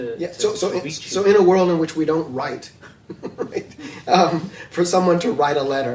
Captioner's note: laughs